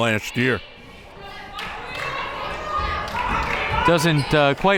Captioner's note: crowd members shouting